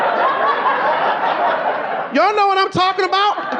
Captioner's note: audience laughing